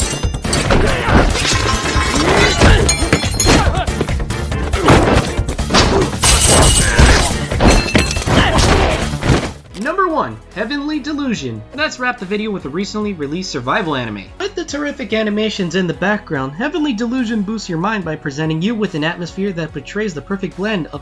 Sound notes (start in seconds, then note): 1.4 knife drops; 1.4 metal pole scratches ground; 5.3 fence rattling